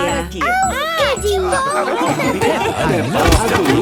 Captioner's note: laughing